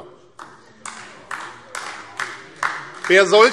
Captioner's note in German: Beifall AfD